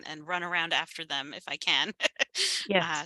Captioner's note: laughs